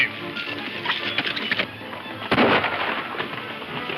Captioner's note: gunshot